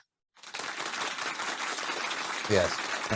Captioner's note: hands clapping